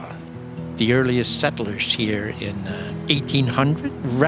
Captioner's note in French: bruit des chutes qui se précipitent